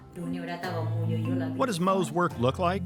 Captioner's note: speaking in foreign language